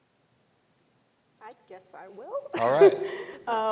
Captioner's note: laughs